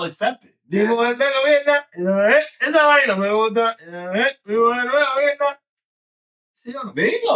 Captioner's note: speaking In Foreign Language